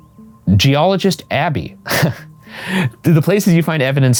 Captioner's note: laughs